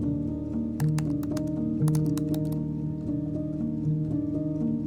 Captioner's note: keyboard keys clicking